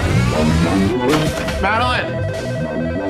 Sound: door opens, phone ringing

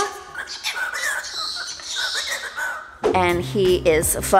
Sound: bird squawking

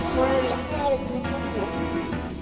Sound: electronic static

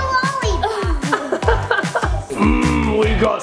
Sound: laugh

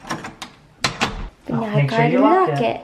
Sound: door closes

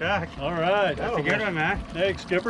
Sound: chuckling

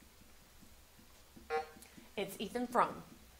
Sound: buzzer sounding

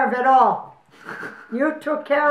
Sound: laughing

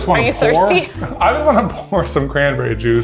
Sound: chuckling

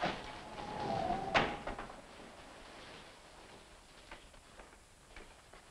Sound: wind howling; rain pattering

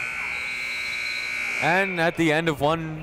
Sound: buzzer ringing

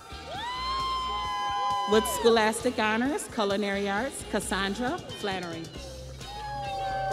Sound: crowd cheering

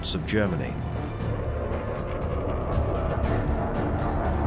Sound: engine roars

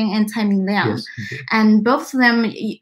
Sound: speaks mandarin

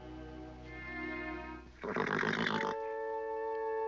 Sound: nickering

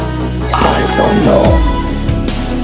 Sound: whispers

